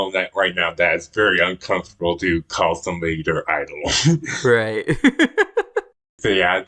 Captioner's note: laughs